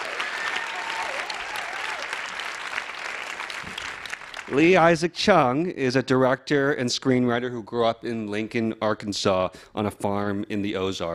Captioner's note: applause